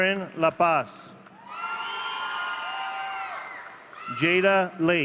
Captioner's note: audience cheering